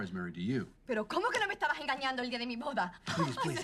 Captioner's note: speaking Spanish